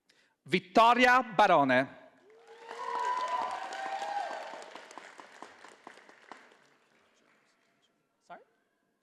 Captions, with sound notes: Vittoria Barone. (audience applauding)